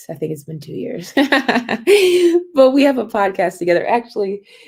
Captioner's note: laughter